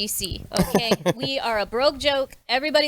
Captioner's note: group laughs